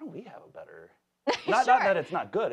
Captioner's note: laughs